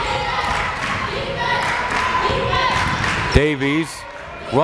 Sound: crowd chanting defense

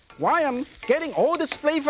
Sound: ingredients sizzling; pan clinking

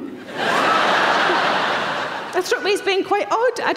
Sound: audience laughing

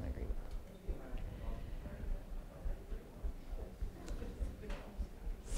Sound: audience murmuring

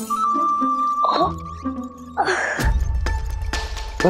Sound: groaning in pain

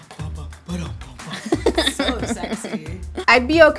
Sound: giggles

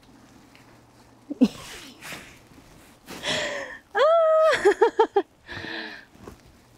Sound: laughs

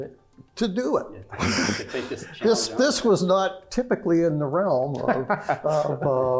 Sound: laugh

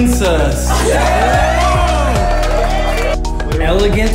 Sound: crowd cheering

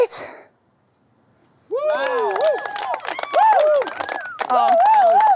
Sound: audience applauds and cheers

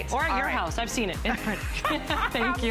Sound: laughter

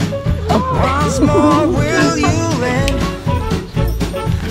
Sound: laughs

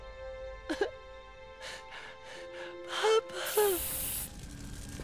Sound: sobbing

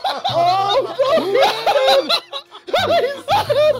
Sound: laughter

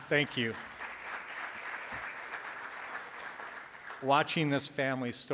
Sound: audience applauds

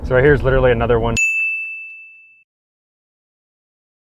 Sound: bell pinging

